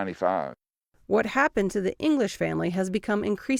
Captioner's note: voice-over